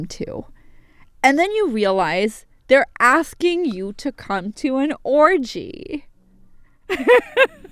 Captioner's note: laughter